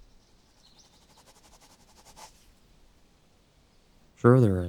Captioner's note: pen scribbling